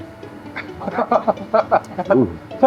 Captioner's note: hahaha